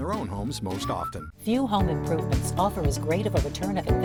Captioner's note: voiceover